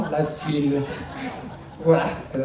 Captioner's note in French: rires dans la salle